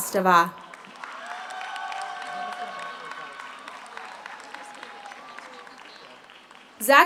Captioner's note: audience applauds; audience cheers